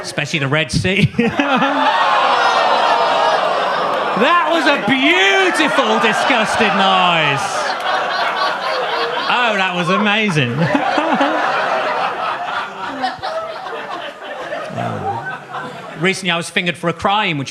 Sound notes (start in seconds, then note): 1.6 laughs; 2.1 audience groaning; 7.6 audience laughs; 11.1 audience laughs